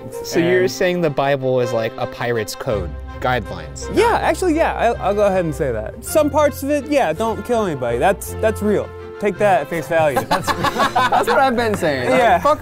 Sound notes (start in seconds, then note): 10.1 laughing